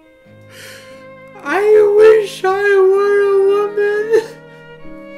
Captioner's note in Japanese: すすり泣き